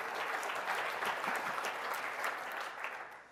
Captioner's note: applause